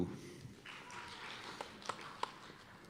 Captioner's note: applause